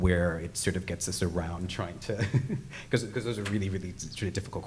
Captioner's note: laughs